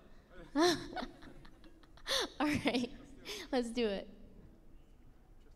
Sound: laughs

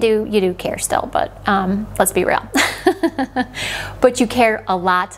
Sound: laughing

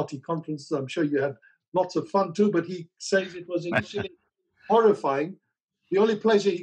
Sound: Sadhguru laughs

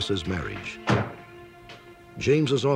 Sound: car door slams shut

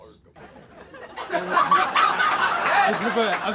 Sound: hysterical laughter

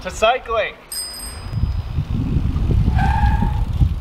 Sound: bell ringing; tires squealing

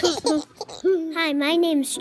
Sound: giggling

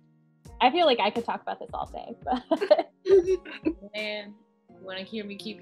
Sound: laughing

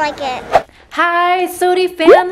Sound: woosh noise

